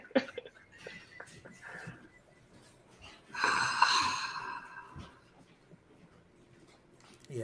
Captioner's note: laughter